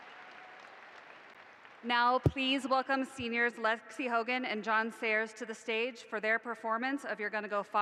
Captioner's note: applause